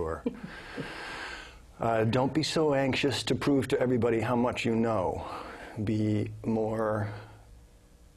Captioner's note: laugh